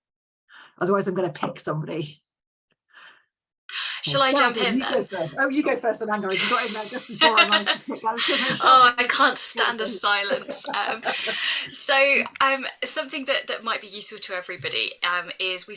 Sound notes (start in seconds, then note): 6.2 laughs